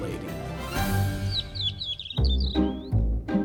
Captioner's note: birds chirping; whimsical music